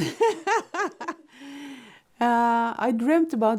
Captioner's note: laughing